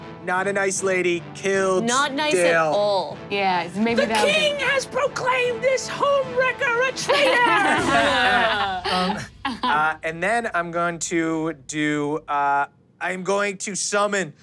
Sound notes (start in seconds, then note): 7.0 everyone laughs